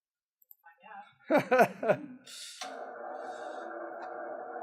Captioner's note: laughs